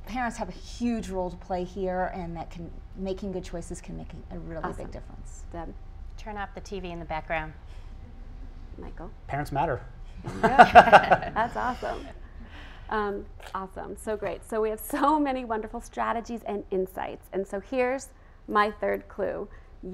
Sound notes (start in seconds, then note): 10.2 laughing